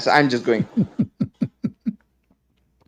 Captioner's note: Ketawa